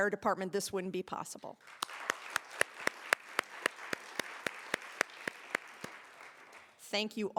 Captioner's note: applause